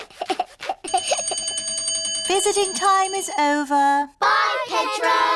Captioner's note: giggles; bell rings